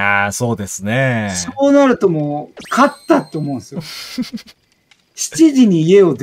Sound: laughing

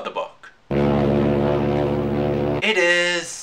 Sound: fog horn

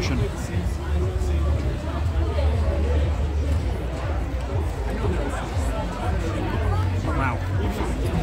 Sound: background chatter

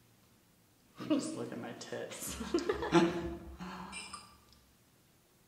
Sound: both laugh

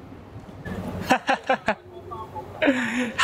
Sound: laughs

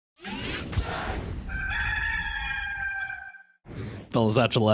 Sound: cock crows

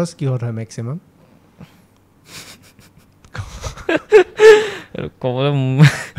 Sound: laughs

